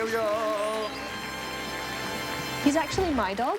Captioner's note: applause